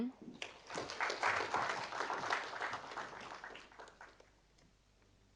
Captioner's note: audience applauding